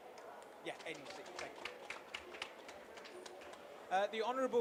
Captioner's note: applause